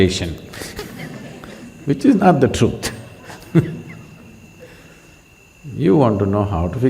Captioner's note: laughter; laughs